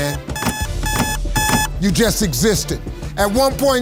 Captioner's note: alarm blares